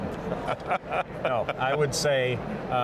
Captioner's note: both laugh